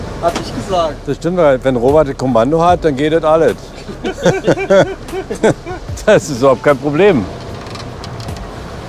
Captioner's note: laughter